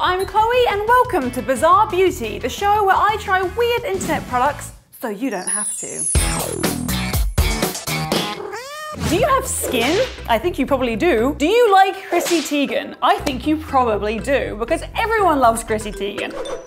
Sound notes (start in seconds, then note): 6.1 upbeat music; 8.4 cat meowing